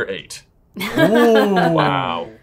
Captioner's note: chuckling